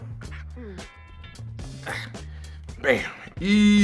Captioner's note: grunting